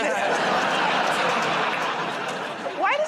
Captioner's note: laughter